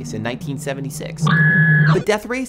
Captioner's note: arcade noises